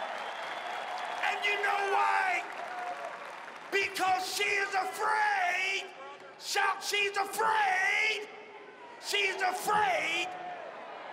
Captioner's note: cheering and applause